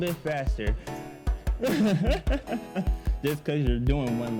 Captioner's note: laughs